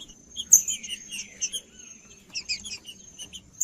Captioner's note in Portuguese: trinca ferro cantando